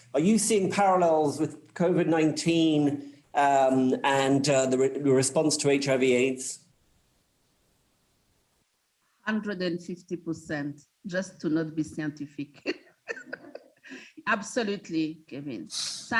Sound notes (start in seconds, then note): 13.1 laughs